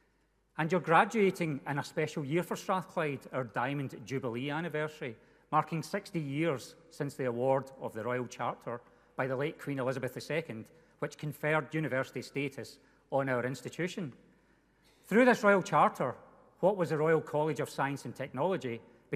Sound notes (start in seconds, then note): none